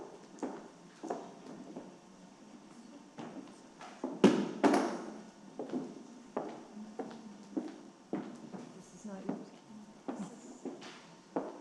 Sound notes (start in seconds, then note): 4.5 object thuds; 5.7 heels clicking; 9.1 participant faintly speaking